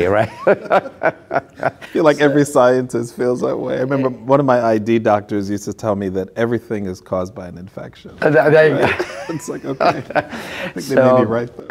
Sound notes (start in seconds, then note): 0.1 laughs; 8.5 laughing